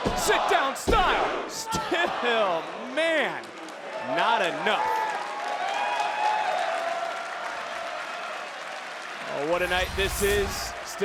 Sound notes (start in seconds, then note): 2.7 hands thudding; 5.5 crowd cheering; 9.5 graphics whooshing